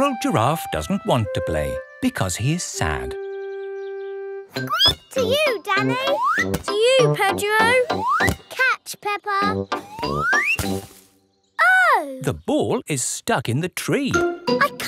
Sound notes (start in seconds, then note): 4.6 squeaks